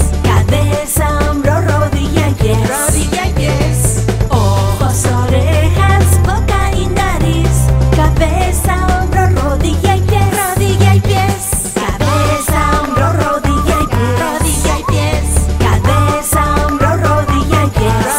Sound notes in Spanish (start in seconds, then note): 12.1 acompaña silbidos, palmas y tarareos